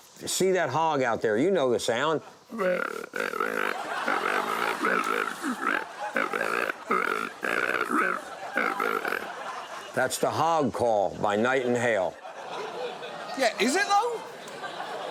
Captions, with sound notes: see that hog out there. You know the sound. (HOG CALLING) That's the hog call by Knight & Hale. (STUDIO AUDIENCE LAUGHING) Yeah, is it, though?